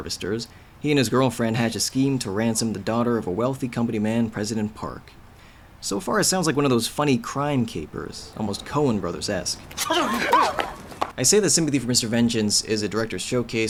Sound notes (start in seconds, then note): 9.4 shouting; 9.8 grunts